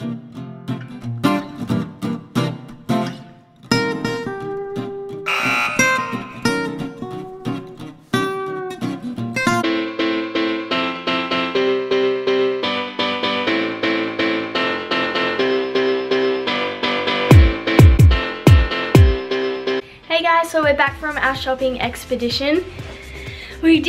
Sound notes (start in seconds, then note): 0.2 guitar strumming; 5.2 buzzer